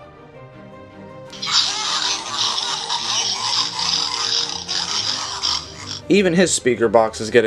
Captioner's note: sounds of a pig